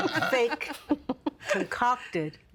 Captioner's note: all laughing